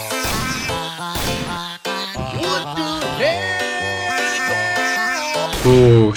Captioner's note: intense gameplay